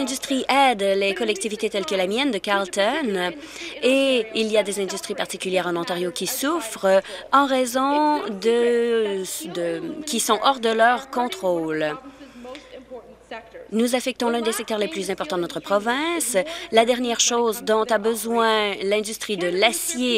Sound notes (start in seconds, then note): none